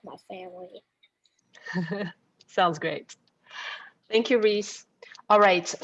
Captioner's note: laughs